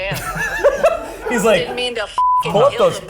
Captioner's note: laughs